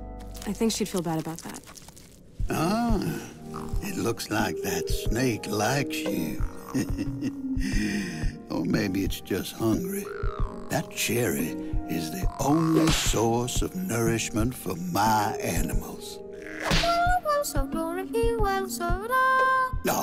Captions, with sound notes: I think she’d feel bad about that. Ahhh… (gurgles) It looks like that snake likes you. (chuckes) Or maybe it’s just hungry. (gurgles) That cherry is the only (smack) source of nourishment for my animals. (smacks)